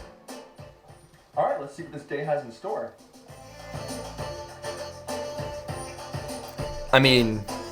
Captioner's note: person speaking clearly over music